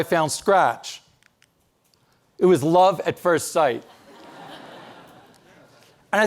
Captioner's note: audience laughing